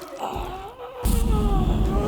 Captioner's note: masked figure groans; dramatic musical score